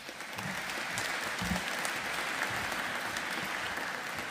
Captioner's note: audience applauding